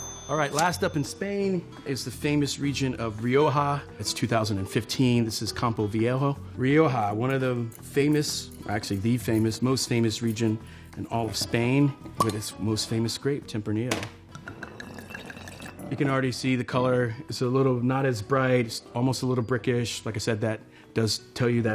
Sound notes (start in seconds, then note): 14.3 bottle rolls; 14.3 wine pours